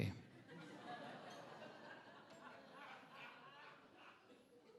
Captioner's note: attendees laughing